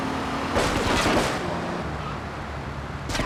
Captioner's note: explosion